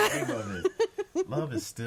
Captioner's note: all laughing